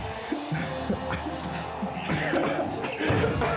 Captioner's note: laughing